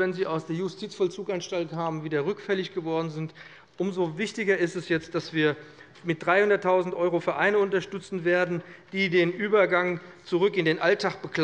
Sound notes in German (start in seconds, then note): none